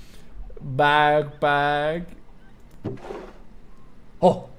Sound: in German

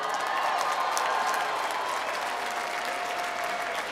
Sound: applause

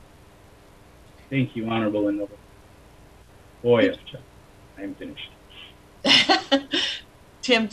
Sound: speaking foreign language

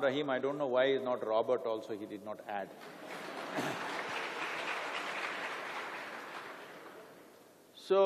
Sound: applause

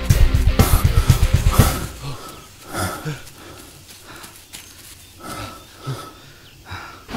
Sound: panting

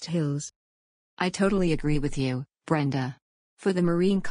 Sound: soothing

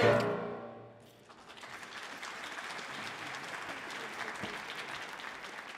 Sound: audience applauding

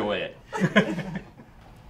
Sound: laughing

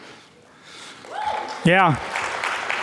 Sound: audience cheering and clapping

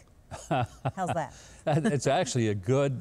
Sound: Mike laughs

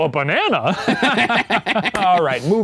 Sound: both laughing

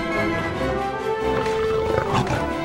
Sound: growls

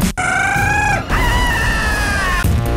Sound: scream

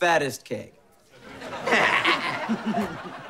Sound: chuckles

